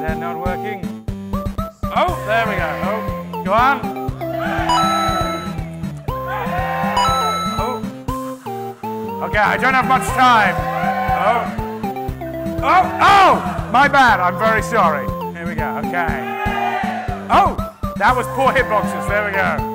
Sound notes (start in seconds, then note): 6.2 cheering